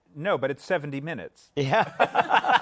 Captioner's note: laughter